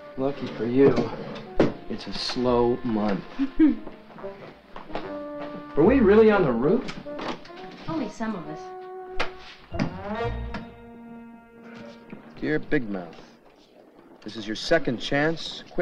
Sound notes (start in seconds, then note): 9.1 whimsical music; 9.2 softly smacks